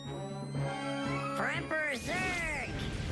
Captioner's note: laser powering up